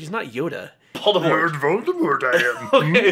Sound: speaks Yoda

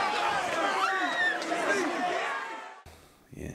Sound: woman screaming

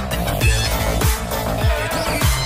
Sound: clap

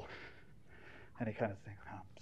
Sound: sniffling

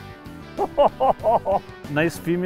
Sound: laughing

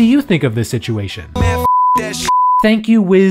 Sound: beep

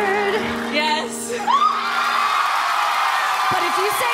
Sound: cheers and applause

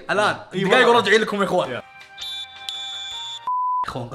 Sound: whistles

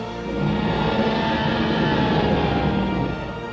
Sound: T-Rex roaring

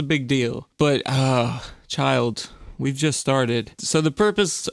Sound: despairing sigh

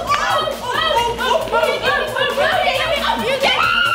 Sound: yelling

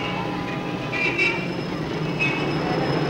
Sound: horn Honking

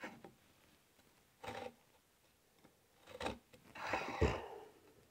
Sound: hand tool scrapes

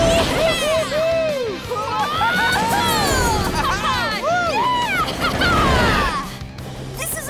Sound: cheering

